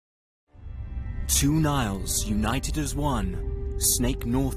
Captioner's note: insects buzzing